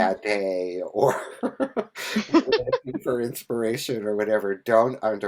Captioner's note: laughs